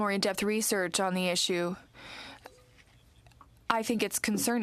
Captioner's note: speaking french